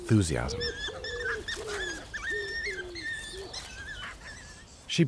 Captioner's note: cubs whining